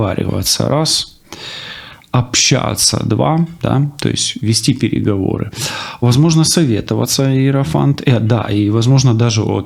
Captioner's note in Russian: тяжело вздыхает